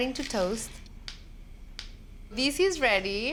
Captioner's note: seeds popping